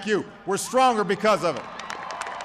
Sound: applause

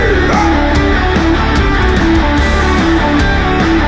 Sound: crowd

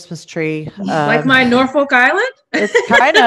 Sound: laughs

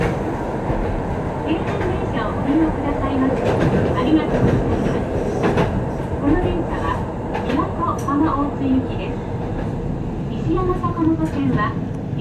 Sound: announcements in Japanese

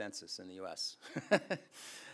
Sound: laughs

